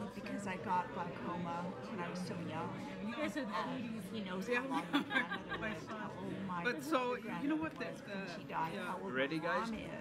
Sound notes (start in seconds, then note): 3.4 people chattering